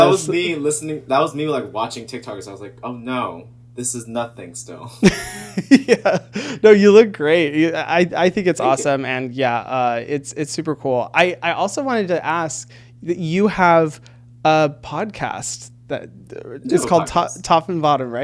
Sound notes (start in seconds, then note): 5.0 laughing